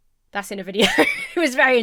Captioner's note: laughs